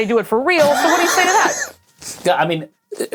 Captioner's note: cackles